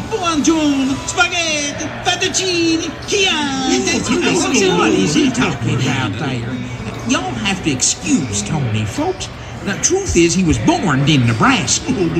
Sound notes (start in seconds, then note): 3.8 laughter